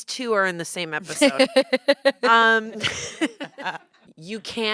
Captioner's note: laughter